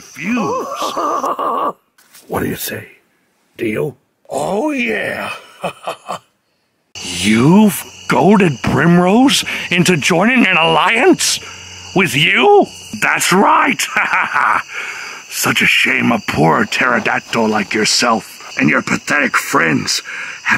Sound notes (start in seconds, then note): 0.2 Primrose laughing with excitement; 5.1 chuckles; 13.5 laughs evilly